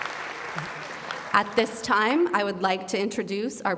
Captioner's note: applause